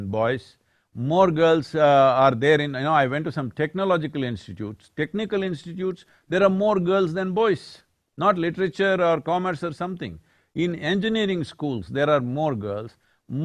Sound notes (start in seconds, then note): none